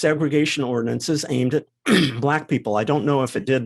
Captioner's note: cough